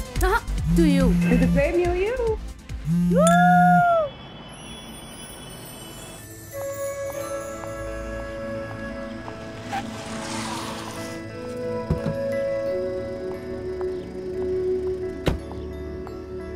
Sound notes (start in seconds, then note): 11.8 Car door opens; 15.2 Door closes